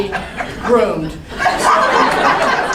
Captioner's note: laughing